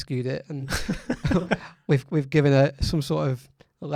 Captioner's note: laughs